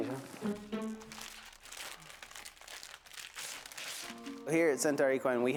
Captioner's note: bandage rustling